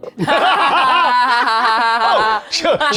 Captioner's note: cast laughs